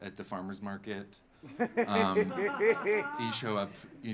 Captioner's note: audience laughing